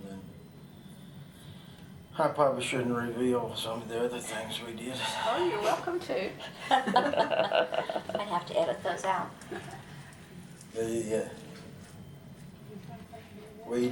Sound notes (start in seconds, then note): 9.4 laughter